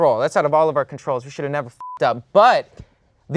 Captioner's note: beep